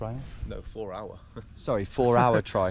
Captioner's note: chuckles